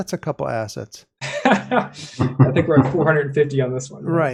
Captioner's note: laughs